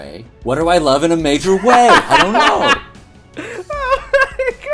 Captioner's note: laughter